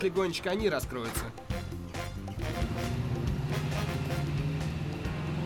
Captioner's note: engine revving